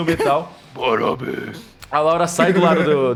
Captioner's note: deep vioce